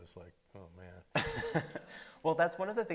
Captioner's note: laughing